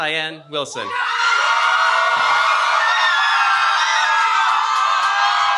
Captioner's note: cheering